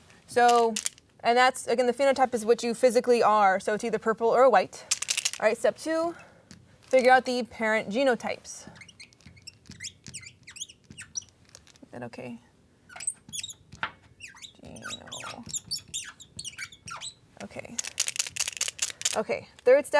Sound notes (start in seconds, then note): 8.6 marker Squeaking